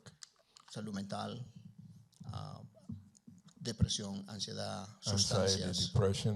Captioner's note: Spanish language